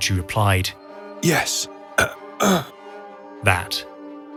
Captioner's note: groans